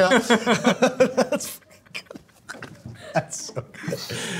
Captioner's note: laughing